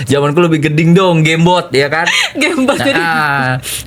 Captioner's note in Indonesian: tertawa